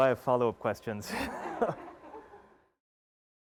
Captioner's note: laughs